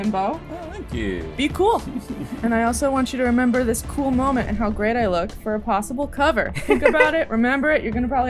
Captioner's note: laughter